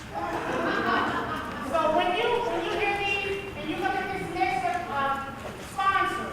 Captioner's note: chatter